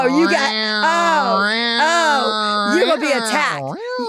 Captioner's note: Delta purring